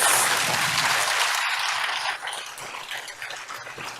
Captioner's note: applause